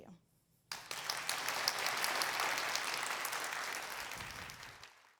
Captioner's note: applause